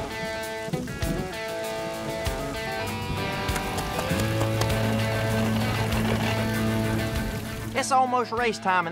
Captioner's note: rain falling